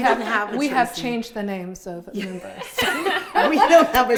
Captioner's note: group laughs